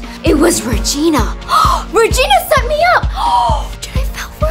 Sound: gasps; gasps

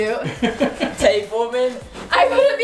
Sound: laughing

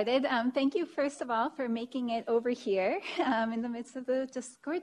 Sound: chuckles

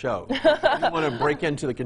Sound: laughing

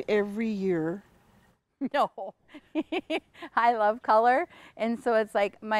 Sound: laughs

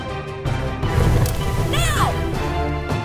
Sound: fire blast SFX

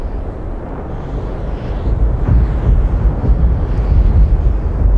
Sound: wind howling

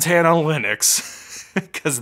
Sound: laughing

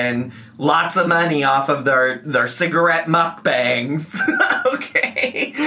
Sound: laughing

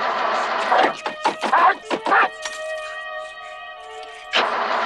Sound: grunting angrily; engine sputtering

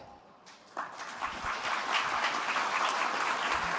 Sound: applause

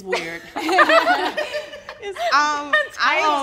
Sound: all laughing

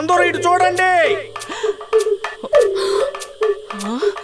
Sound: gasps

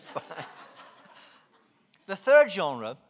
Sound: laughing

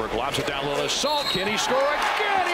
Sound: whistle

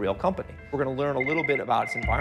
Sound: phone ringing

